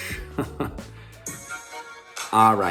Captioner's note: chuckles